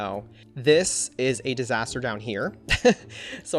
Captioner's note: laughs